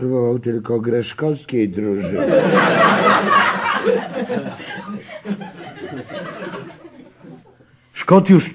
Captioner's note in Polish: śmiech